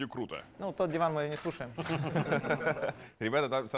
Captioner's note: laugh